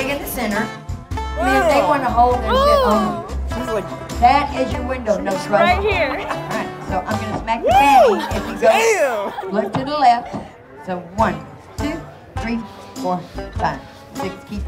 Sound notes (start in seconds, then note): 1.4 making noises of disgust